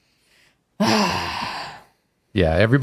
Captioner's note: frustrated sigh